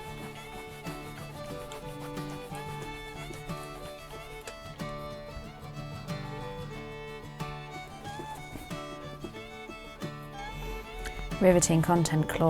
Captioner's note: iron sizzles